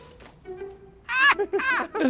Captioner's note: laughing